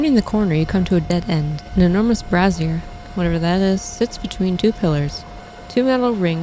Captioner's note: fire